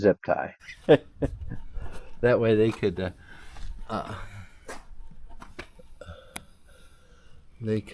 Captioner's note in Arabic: تضحك